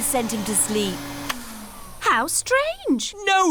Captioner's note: whirring stops